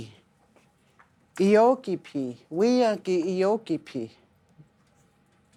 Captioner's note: speaking Lakota